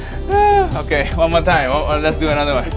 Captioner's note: chuckles